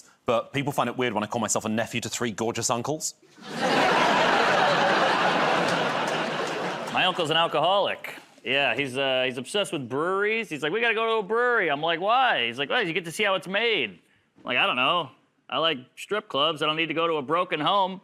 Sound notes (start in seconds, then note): 5.3 laughter